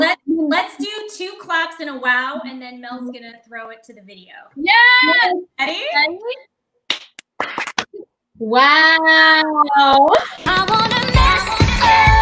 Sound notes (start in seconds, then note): 6.9 clap